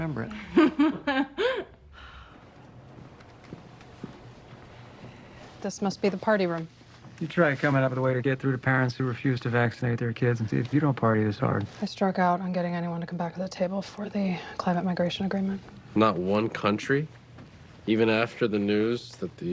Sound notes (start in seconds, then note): 0.3 laughs